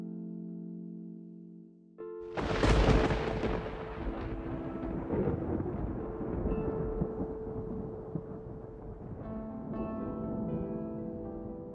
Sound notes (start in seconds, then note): 2.3 thunder cracks the sky